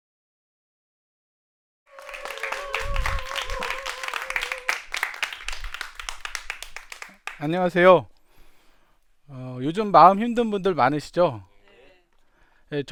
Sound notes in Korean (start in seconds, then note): 1.9 박수와 환호